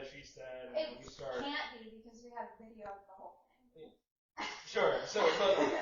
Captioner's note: nervous laughter